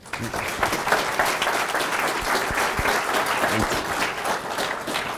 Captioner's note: audience applauding